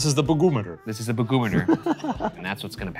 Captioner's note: laughs